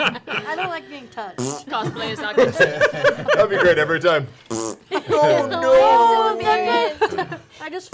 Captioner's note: fart sound